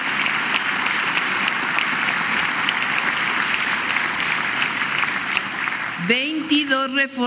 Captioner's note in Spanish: aplausos